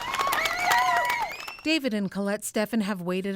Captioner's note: cheers and Applause